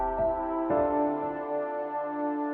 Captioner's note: none